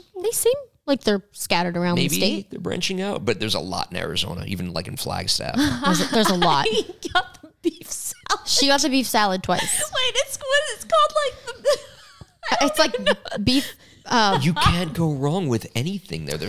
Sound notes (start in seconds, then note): 5.6 laughs; 12.1 laughs